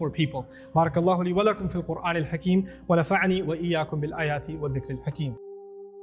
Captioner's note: Arabic